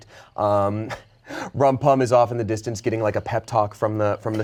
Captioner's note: chuckles